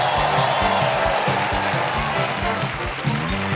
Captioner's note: cheers and applause